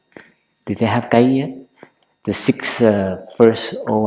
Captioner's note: Vietnamese